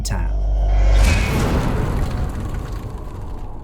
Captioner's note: impact